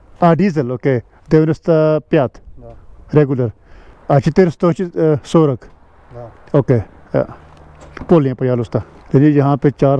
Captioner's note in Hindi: रूसी में बोलते हुए